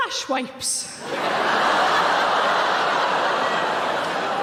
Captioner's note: audience laughing